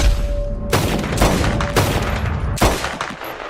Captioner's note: gunshots